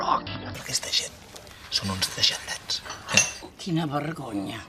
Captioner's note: whispers